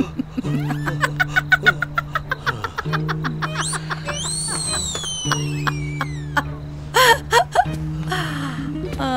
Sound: hysterically laughing

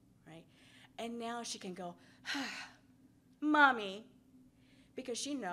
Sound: exhales

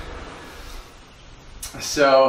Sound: breathing heavily

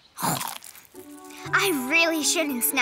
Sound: Snap Pea chomps

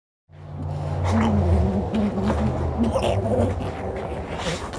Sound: gurgling

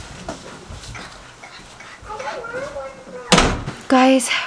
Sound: whispers

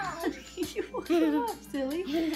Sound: laughing

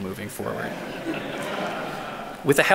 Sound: audience laughing

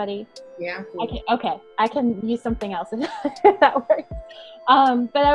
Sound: laughing

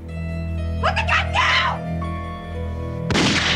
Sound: screaming; gunshot

